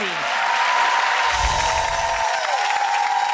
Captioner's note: applause